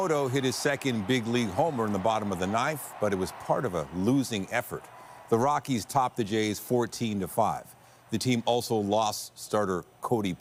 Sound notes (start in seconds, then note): 1.7 applause